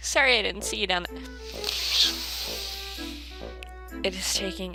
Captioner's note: deep inhale